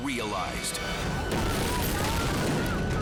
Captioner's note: explosion booming